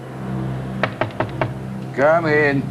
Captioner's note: knocking on the door